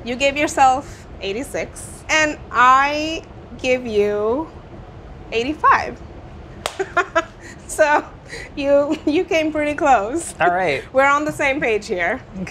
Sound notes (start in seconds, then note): 6.6 claps